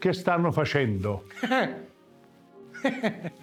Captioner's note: secretary laughing